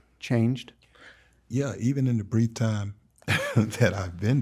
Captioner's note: chuckles